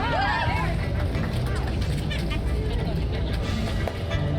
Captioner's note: cheering